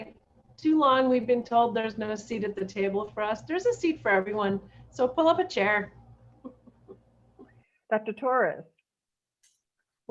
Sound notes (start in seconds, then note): 6.4 laughter